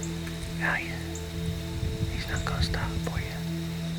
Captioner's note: whispering